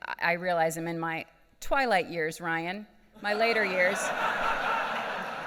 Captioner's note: laughing